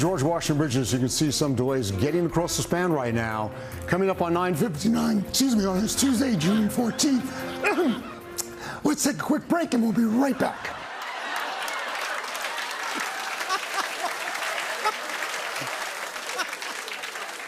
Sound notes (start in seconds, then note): 3.9 voice breaking; 6.3 coughs; 8.7 hoarsely; 10.2 laughter